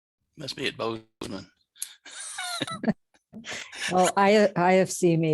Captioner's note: laughs